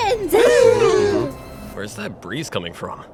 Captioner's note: group gasps